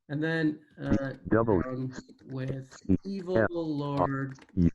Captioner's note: automated voice; automated voice